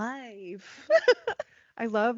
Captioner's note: laughing